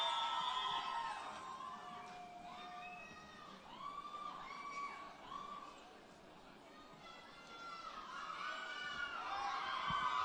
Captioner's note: cheering and Applause